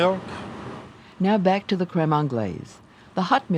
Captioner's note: voiceover